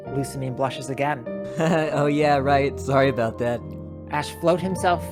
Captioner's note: awkward laugh